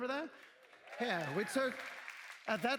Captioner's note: cheers